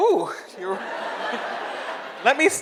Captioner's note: audience laughs